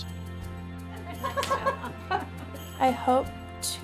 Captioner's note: laughing